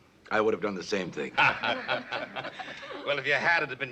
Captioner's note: laughter